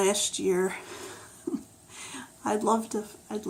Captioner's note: laughs